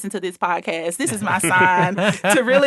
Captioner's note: laughing